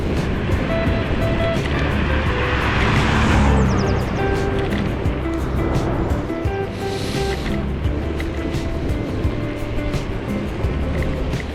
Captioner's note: wind Blowing